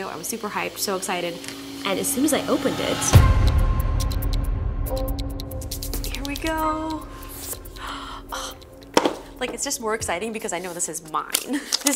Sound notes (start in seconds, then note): 3.2 upbeat suspenseful music; 7.6 box opening